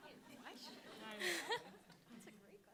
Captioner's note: all laughing